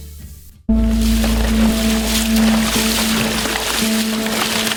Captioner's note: water splashing